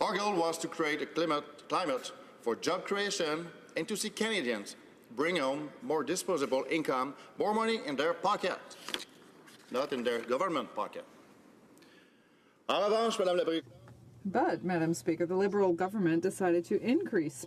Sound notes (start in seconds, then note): 15.7 speaking French